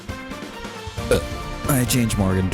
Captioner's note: burp